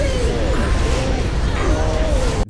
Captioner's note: whoosh sounds